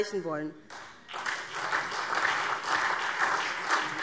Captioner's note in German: Beifall SPD